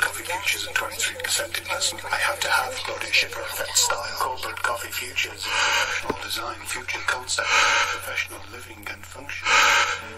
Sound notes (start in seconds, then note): 5.3 heavy breathing